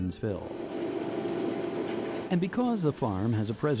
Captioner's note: tractor engine whirring